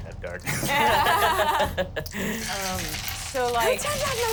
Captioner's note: everyone laughs